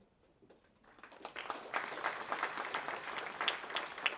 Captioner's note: audience applauds